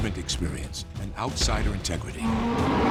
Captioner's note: sfx: bear roar